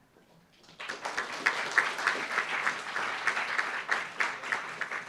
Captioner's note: applauds